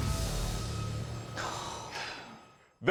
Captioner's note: sighing